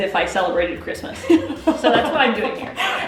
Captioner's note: laughing